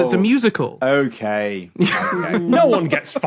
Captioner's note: laughs